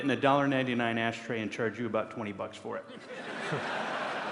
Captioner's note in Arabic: ضحك